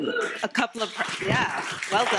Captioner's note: audience clapping